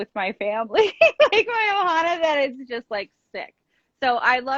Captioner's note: chuckling